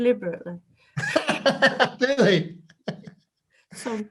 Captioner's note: laughs